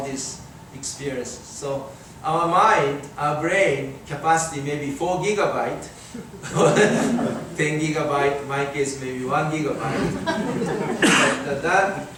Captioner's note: audience laughing